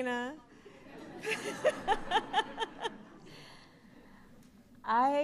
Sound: laughter

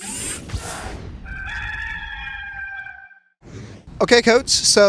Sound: rooster crows

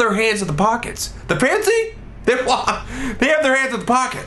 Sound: laughs

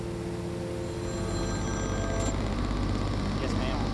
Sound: phone rings

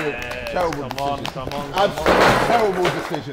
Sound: Sidemen applauding

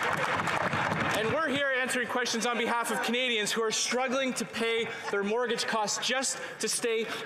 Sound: applause

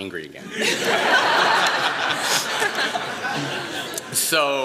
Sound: laughter

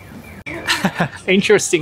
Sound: laughs

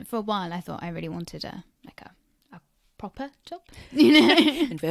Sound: laughs

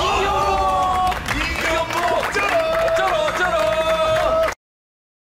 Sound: laughs

